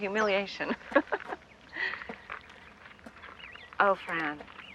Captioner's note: chuckling